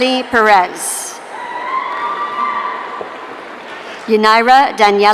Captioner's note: audience cheering